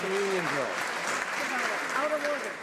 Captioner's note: some Applause